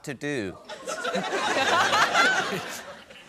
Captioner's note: laughter